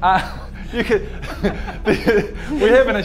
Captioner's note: laughs in liar